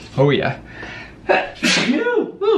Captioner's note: sneezes